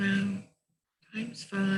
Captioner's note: muttering